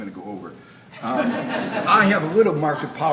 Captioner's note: audience laughs